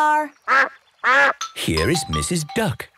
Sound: quacks

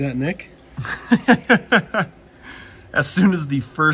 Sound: laughs

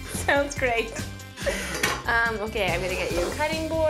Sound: laughs

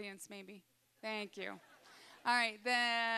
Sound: audience laughing

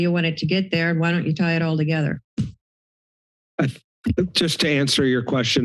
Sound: thud

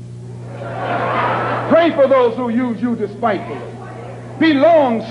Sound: murmuring

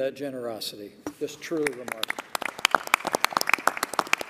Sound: applause

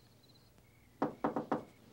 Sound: knocking

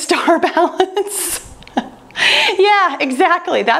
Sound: laughing

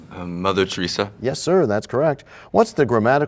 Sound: none

